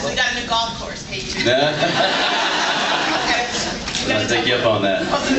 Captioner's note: laughs